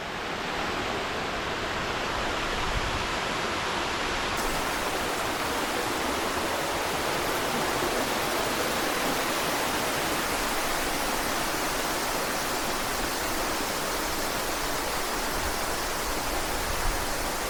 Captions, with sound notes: that you can see closer and closer to the falls. [water splashing]